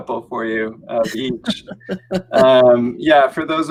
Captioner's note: laughing